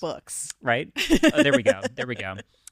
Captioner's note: laughing